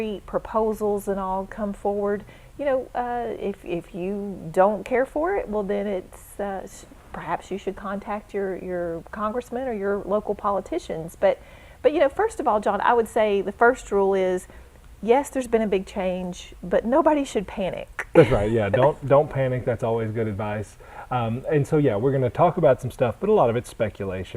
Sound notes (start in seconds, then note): 18.1 chuckle